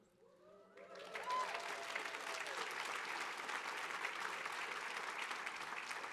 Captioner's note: audience cheering and clapping